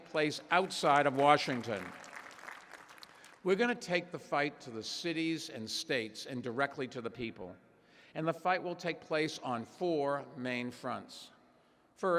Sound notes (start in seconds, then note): 1.5 applause